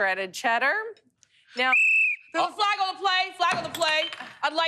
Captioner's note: whistle